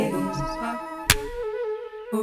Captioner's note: clap